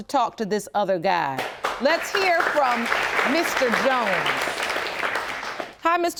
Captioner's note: audience applauding